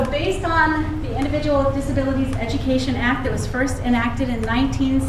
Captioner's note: none